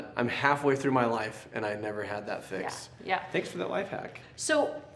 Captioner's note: none